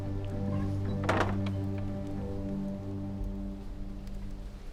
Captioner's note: tense music; door clattering